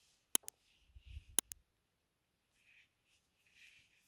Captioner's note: mouse clicking